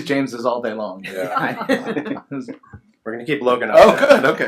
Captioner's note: laughs